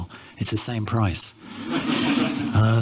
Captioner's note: laughter